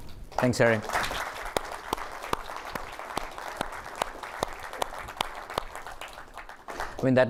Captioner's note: applause